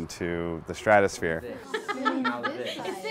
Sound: laughter

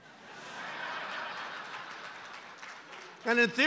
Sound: laughter

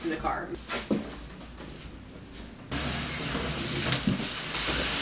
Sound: boxes shuffling

